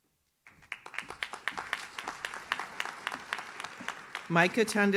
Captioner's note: audience claps